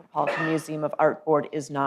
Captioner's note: coughs